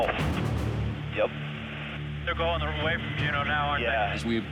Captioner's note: voice On Radio